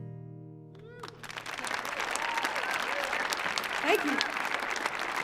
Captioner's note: audience applauding